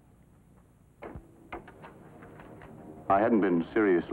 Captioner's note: door opens